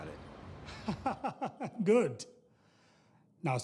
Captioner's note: laughs